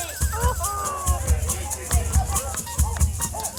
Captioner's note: chatter